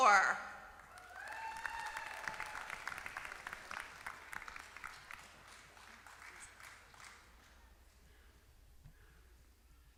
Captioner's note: applause